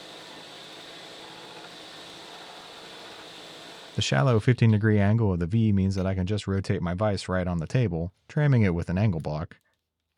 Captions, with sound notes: (machine whirring continues) The shallow, 15 degree angle of the V means that I can just rotate my vise right on the table, trimming it with an angle block,